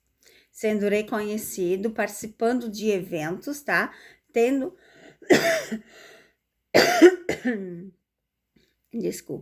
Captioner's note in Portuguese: tosse; limpando a garganta